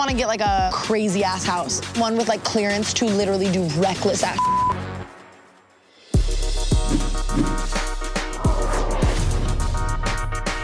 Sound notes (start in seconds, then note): 4.4 beep; 6.2 upbeat music